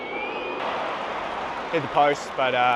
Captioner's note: crowd cheering